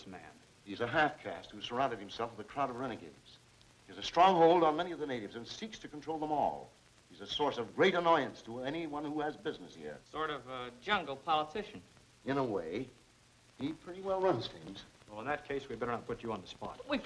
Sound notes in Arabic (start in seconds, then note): none